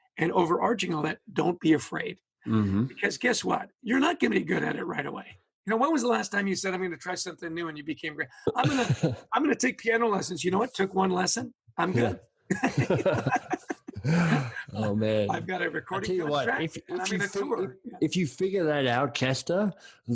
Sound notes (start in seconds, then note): 12.5 both laughing